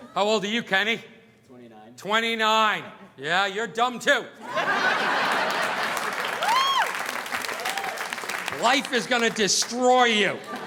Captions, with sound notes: How old are you, Kenny? - I'm 29. - 29. Yeah, you're dumb too. (audience laughing) (audience applauding) Life is gonna destroy you.